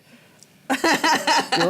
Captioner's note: laughter